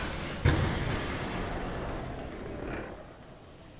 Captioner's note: car crashing